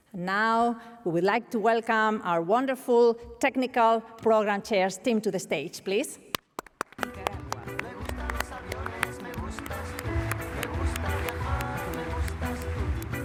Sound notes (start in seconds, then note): 6.3 applause; 10.6 upbeat music